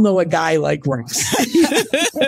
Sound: laughing

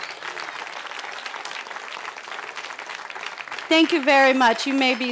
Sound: cheering

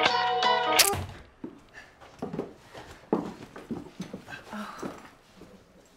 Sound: footsteps

